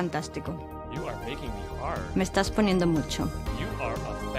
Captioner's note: speaks in english